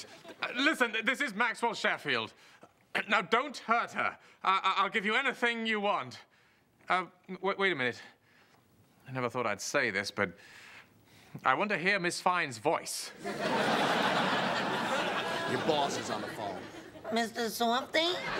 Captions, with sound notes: Listen, this is Maxwell Sheffield. Now, don't hurt her! I'll give you anything you want. Um, wait a minute. I never thought I'd say this, but I want to hear Miss Fine's voice. ( laughter ) Your boss is on the phone. Mr. Softie?